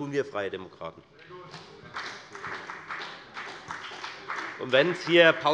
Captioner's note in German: Beifall bei der FDP